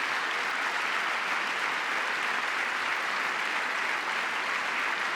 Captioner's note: applause